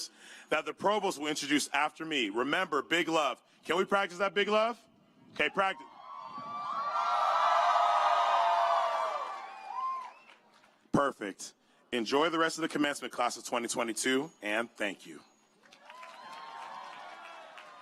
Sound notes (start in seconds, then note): 11.4 cheers